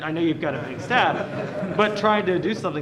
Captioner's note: laughter